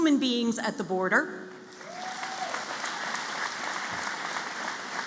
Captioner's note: applause